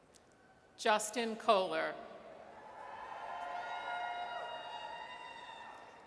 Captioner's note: audience cheers